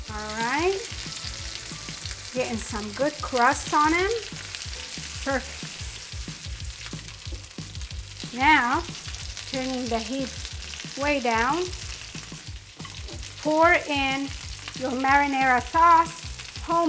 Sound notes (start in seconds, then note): 6.5 meatballs sizzling